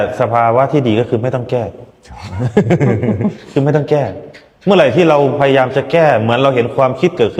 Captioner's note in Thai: เสียงหัวเราะ